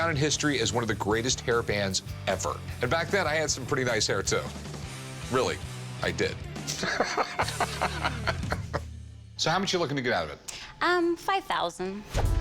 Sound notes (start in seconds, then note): 6.6 laughs